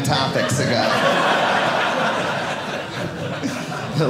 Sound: audience laughing

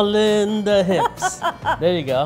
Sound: laughing

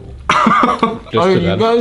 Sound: laughs

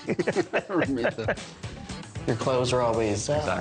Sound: laughs

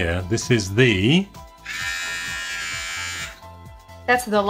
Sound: electric shaver buzzes

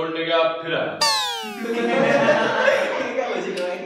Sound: laughing

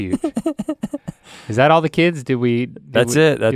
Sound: Rhett laughs

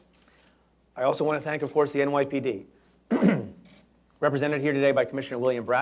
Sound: clears throat

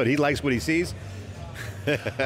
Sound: laughs

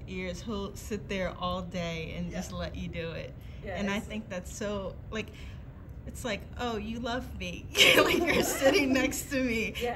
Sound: laughter

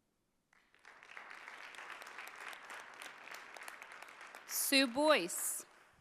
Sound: audience applauding

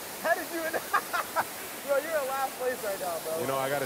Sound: laughter

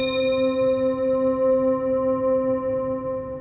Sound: electronic ding

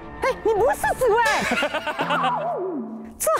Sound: hahahaha

